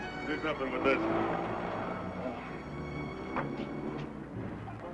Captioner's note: Walsh speaks faintly